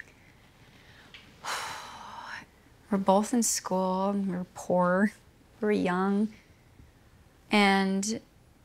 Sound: sighs heavily

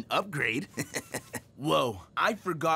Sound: chuckling

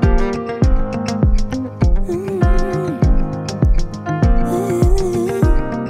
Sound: vocalizing

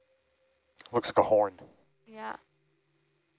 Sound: male Voice

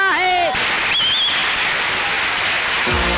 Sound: crowd Applauding

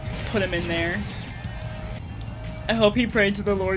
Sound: sirens

